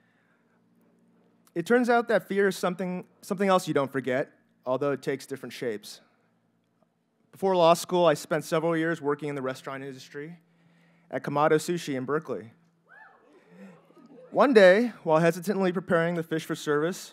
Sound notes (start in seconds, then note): 12.5 audience members cheer